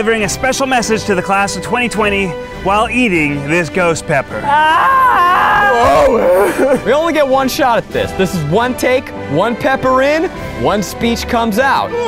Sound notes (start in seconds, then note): 4.5 laughs; 5.1 yelling; 11.8 moaning